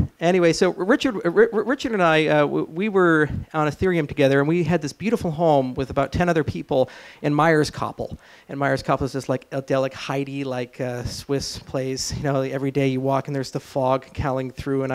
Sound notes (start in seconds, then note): none